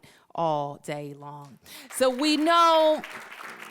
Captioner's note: applause